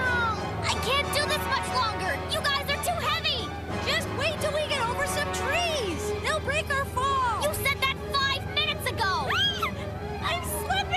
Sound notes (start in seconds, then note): 9.3 shriek